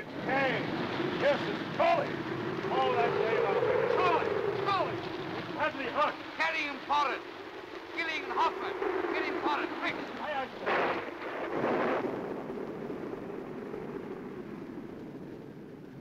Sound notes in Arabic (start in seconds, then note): 11.0 صوت الرعد